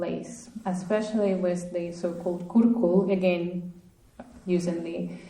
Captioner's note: speaking russian